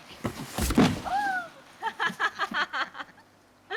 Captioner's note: box thuds; laughs